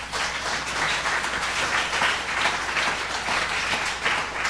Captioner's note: audience applauding